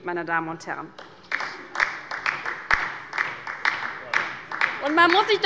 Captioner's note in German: Beifall bei der LINKEN